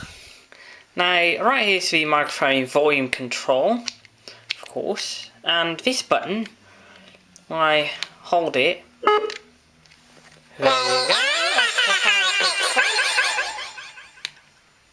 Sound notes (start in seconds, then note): 10.7 high voice